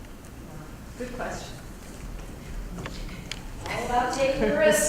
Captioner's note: laugh